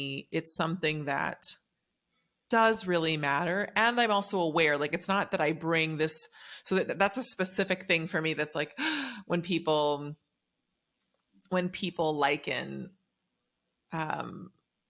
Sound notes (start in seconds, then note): 8.8 gasp